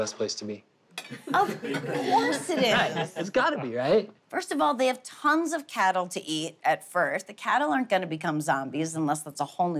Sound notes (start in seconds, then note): 3.1 family laughs